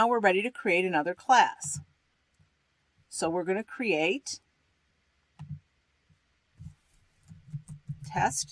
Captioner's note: typing